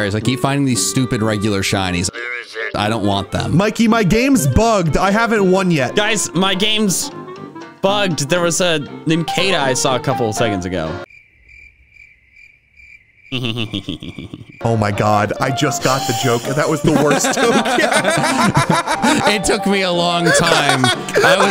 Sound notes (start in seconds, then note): 11.1 silence; 16.4 all laughing; 20.0 laughing